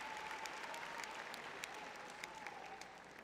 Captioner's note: applause